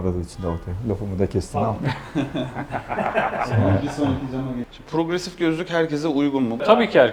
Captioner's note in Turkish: kahkaha